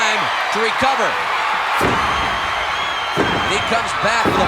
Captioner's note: audience cheering